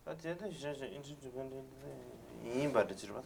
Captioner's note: non-english speech